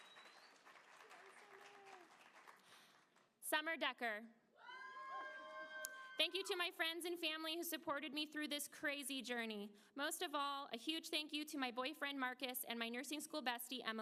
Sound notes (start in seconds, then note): 5.7 applause